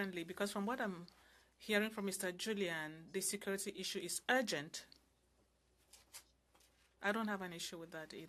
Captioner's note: speaking French